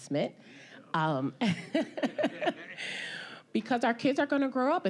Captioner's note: laughing